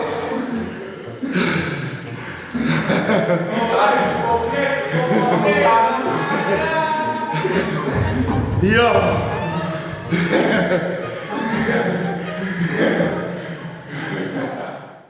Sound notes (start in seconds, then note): 8.9 breathing heavily; 10.6 laughs